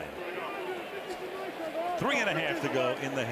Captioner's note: onfield chatter